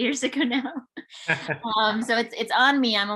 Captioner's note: chuckles